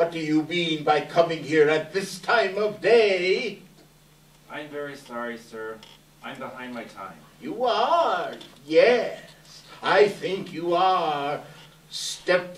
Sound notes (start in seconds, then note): none